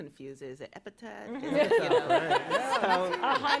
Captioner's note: laughter